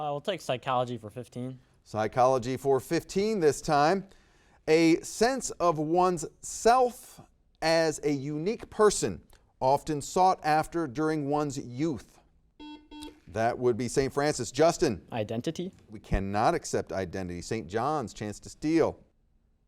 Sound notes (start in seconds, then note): 12.6 buzzer beeps